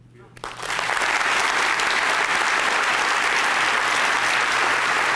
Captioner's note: applause